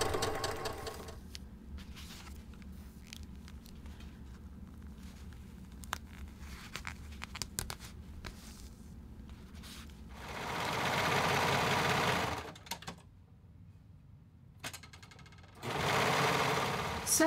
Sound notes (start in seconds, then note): 1.3 thread and fabric rumbling; 10.1 sewing machine running; 15.4 sewing machine running